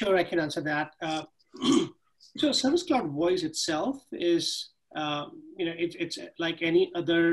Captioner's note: cough